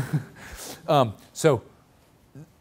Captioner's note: laughs